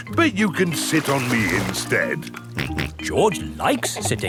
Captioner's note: snorts